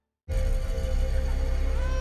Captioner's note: baby crying